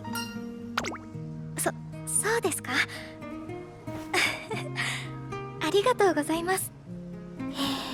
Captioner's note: chuckle